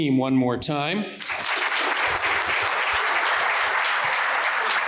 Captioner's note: applause